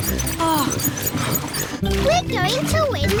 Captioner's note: groans